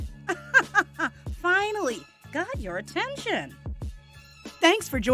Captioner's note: laughing